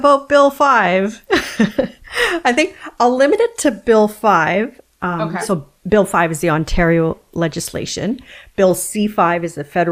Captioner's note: laughs